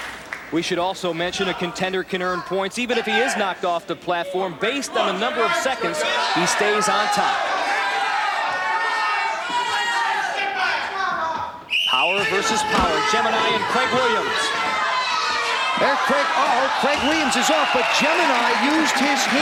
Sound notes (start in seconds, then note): 7.1 audience cheering; 11.6 whistle blows